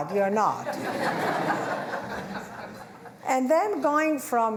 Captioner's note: laughter